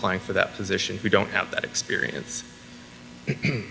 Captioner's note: clears throat